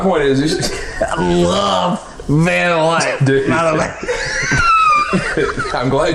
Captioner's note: laughing; laughing